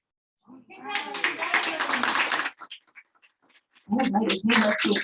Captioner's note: audience applauding